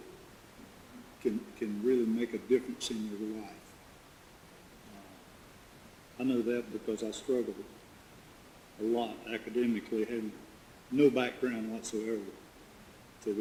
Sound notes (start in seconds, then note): none